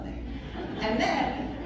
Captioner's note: laughter